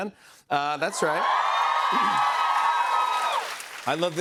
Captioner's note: cheers and applause